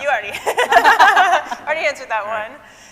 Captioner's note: scientists laughing